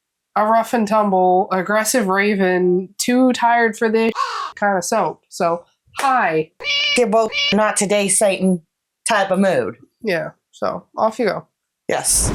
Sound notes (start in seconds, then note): 4.1 caw; 6.6 meow